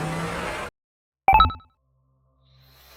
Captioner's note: door chime